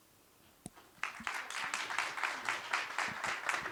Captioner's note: applause